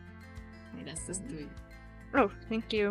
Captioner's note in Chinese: 西班牙話